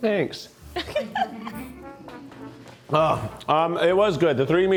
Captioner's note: crew chuckles